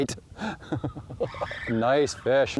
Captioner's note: laughing